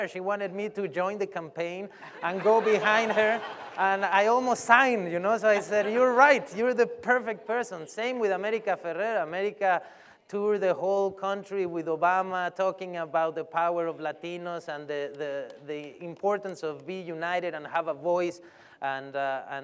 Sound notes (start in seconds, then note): 2.0 laughter